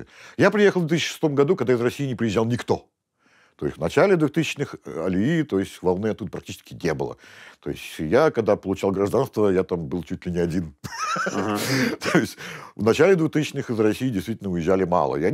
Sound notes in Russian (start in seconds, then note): 10.9 смеется